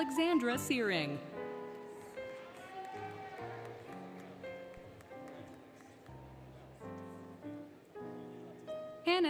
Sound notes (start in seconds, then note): 1.1 applause, Cheering, Music; 4.1 music, Applause